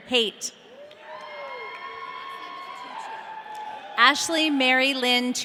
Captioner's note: audience cheering